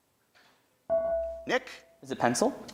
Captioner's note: buzzer dings